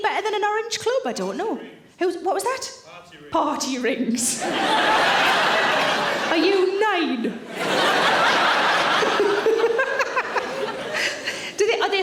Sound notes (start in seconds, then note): 4.4 audience laughs; 8.9 Sarah laughs